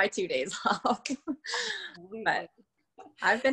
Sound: laughs

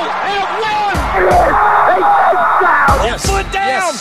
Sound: crowd roaring

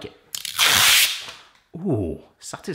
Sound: plastic pealing

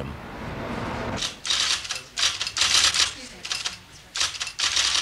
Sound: typing sounds

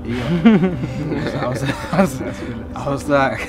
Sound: laughter

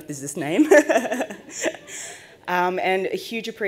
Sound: laughs

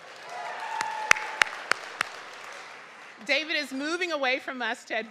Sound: audience clapping

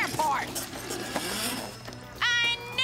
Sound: whirs

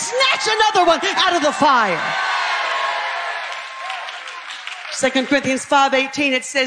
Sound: congregation chatter

